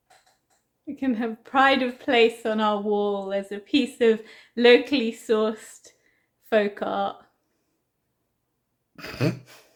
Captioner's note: stifled laugh